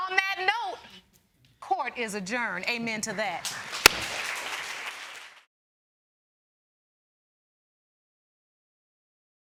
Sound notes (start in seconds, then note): 3.5 audience applauding